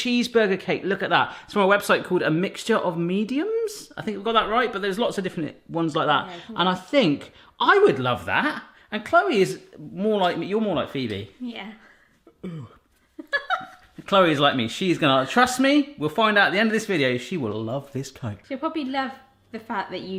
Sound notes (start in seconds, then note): 12.2 yawning; 13.1 laughing